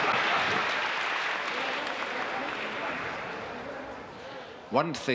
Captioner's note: audience laughing; audience applauding; audience murmuring